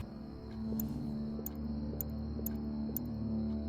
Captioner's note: clicking